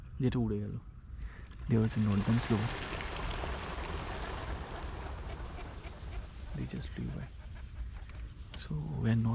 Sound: birds Flying Sound

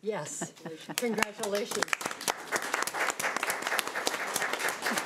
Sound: audience applauding

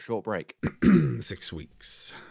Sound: coughs

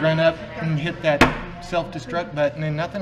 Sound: slams table

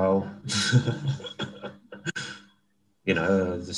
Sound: laughs

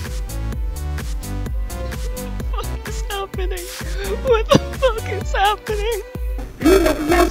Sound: sobbing and repeating

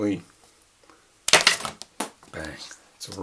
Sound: pen clacks off table

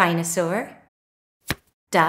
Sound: the sound of a card being turned over can be heard

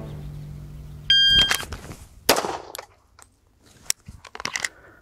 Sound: suspenseful music; signal chiming; gun firing; gun clicking

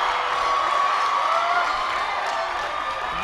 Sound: cheers and applause

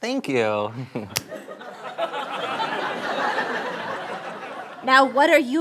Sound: laughter

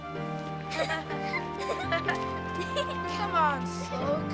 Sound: giggling

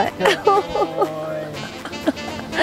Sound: chuckling

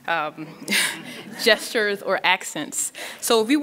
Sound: laughing

